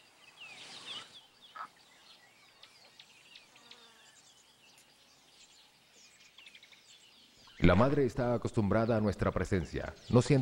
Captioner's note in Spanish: sonidos selváticos